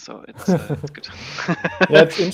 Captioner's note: laughing